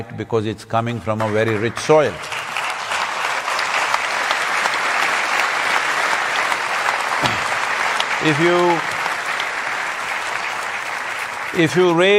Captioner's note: applause